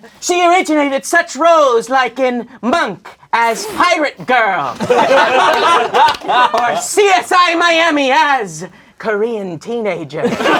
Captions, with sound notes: She originated such roles like in Monk, as pirate girl. (crowd laughing) Or CSI Miami as Korean teenager.